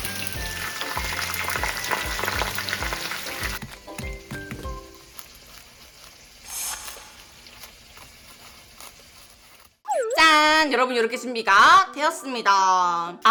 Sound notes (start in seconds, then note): 4.3 crunchy